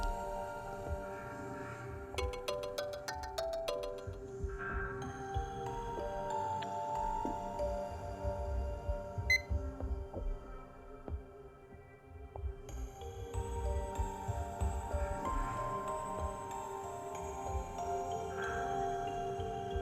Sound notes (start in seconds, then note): 0.3 ring Ring; 9.3 beep